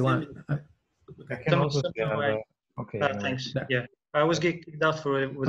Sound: murmuring

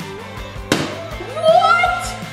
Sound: bottle thuds

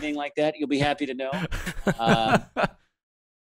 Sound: laughs

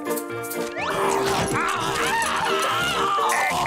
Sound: Plankton screaming; laughing

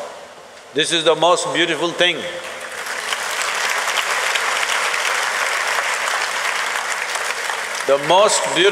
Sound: applause

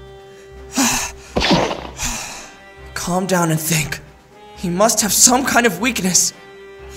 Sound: sighs

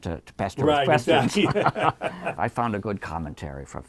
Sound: both laughing

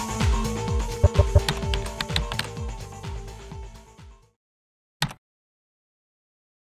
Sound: logos clicking

